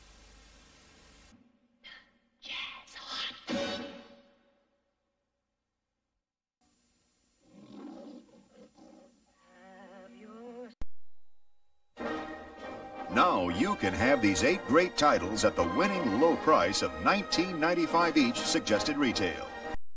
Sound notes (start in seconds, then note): 7.4 Leo the Lion roaring